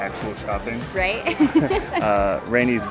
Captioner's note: laughter